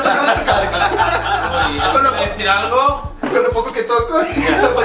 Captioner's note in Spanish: Risas